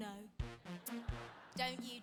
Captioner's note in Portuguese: audience laughing